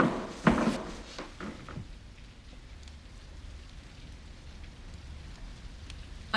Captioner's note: none